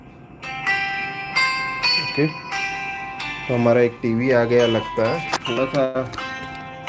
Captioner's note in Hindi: घंटी की आवाज़